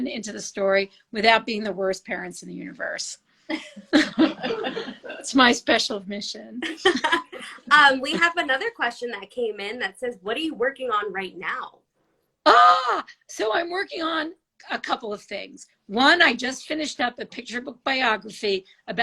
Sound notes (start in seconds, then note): 3.9 all laugh; 6.7 laugh